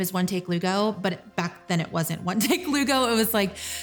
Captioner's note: laughs